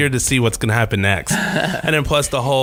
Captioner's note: laughing